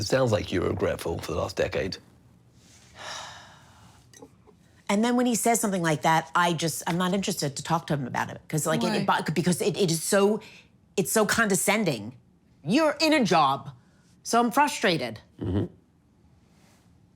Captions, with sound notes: - But it sounds like you're regretful for the last decade. (person sighing) - And then when he says something like that, I'm not interested to talk to him about it. Because it's so condescending. You're in a job, so I'm frustrated.